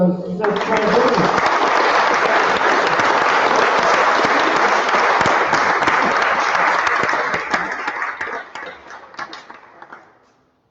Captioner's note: applause